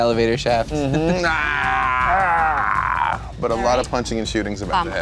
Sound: groaning

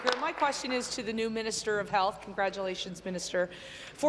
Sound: applause

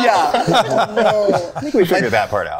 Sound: group laughing

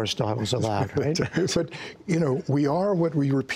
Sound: laughter

